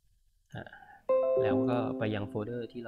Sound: chime from the computer

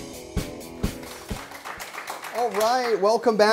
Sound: applause

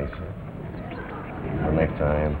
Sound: audience laughs

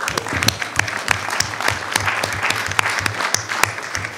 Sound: audience applauding

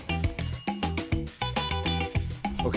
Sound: timer clock chiming

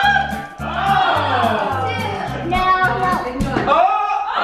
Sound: group yells; group yells

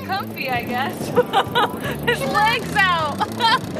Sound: laughing

